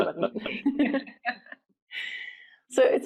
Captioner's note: laughing